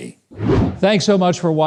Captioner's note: wind whooshing